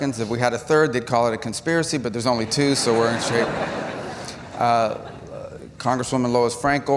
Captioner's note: laughter